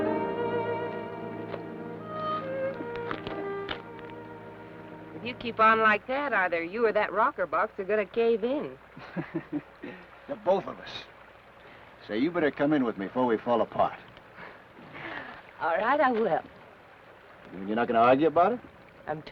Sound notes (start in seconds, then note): 0.0 ominous orchestral music; 0.0 peaceful orchestral music; 9.0 Ben chuckles; 14.5 Laura chuckles